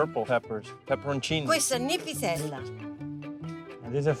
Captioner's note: speaking Italian